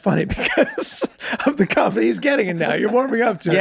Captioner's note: laughs